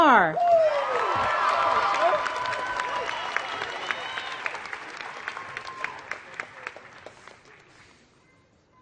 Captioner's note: applause